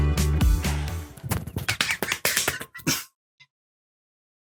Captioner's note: smacking